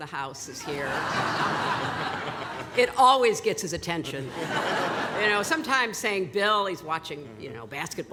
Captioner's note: laughter